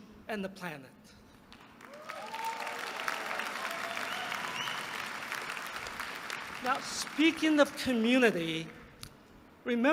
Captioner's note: applause